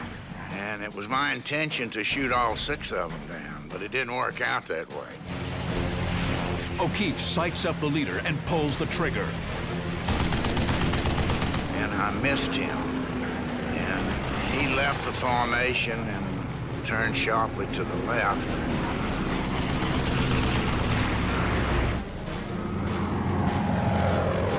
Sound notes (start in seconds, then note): 10.0 gunfire; 19.6 gunfire; 21.7 intense music plays